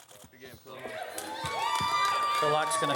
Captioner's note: audience cheering